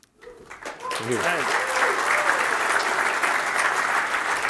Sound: applause

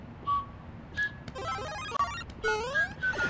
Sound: Super Mario SFX

